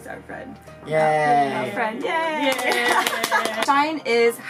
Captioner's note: clapping